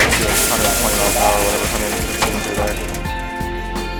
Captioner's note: crashing